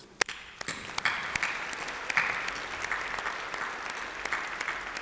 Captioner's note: applause